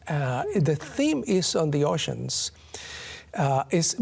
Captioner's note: chuckles